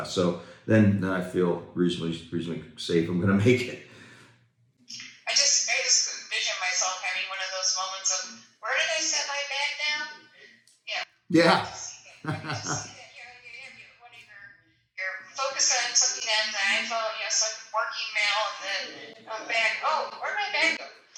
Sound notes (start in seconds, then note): 12.2 chuckling